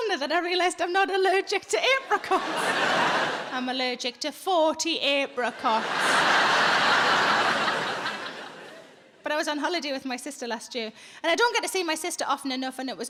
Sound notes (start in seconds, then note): 2.8 audience laughs